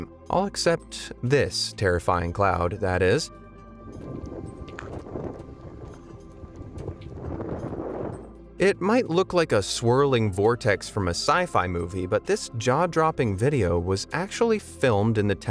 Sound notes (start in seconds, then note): 3.6 gentle music; 3.8 wind whooshing